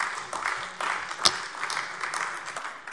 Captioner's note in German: Beifall AfD